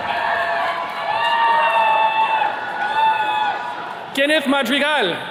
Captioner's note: attendees cheering